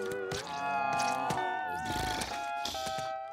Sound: wheezing

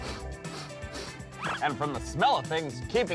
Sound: sniffing

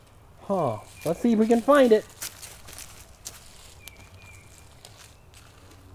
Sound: voiceover

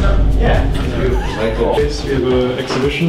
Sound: laugh

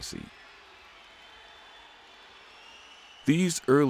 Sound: people cheering

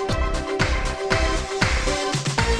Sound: clap

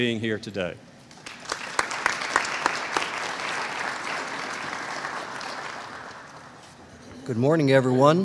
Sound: applause

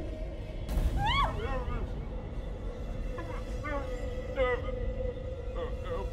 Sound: Francis speaking gibberish

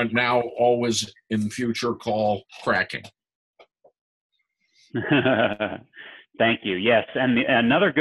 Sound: call cracking

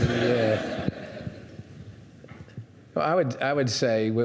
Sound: audience laughing

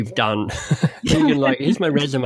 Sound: both laugh

